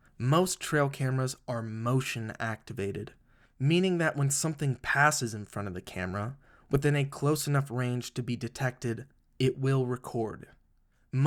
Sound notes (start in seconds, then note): none